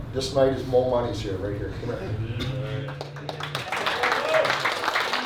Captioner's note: hands clapping